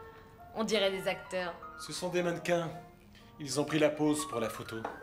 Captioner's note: none